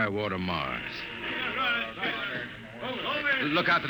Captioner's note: indistinct chatter